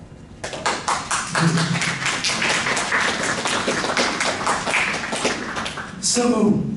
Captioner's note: applause